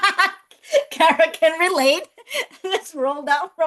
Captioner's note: laughs